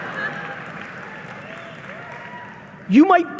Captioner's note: audience members cheering and applauding